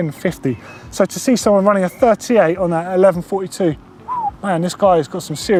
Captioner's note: whistles